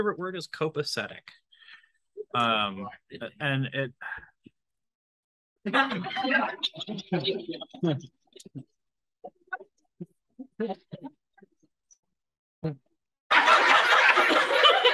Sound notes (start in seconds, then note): 7.2 audio cuts out; 11.8 AUDIENCE laughs